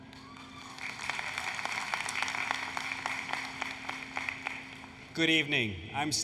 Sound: applause, Cheering

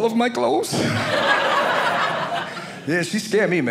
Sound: audience laughing

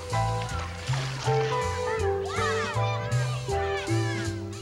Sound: splashing; children shouting

